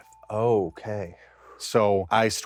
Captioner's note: audible exhale